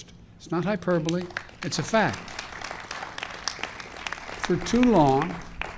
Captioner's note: applause